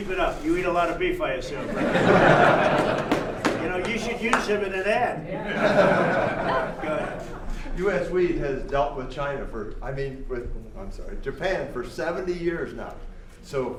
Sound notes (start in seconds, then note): 1.6 laughter; 5.3 laughter